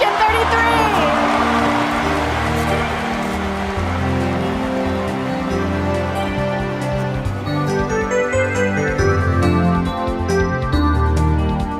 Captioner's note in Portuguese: aplausos